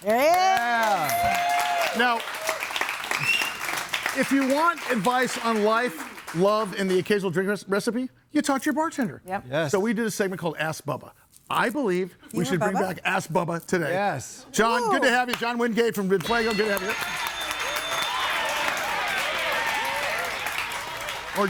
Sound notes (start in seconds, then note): 0.0 audience applauds; 16.1 speaks in foreign language; 16.2 audience cheers and applauds